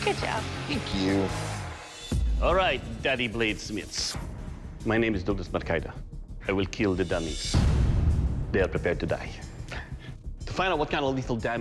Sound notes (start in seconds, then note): 9.1 chuckling